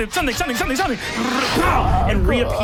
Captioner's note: whoosh